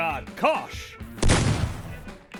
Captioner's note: autocannon fires